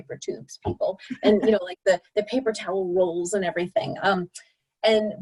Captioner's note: laughter